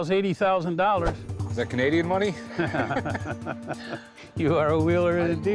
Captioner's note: both laugh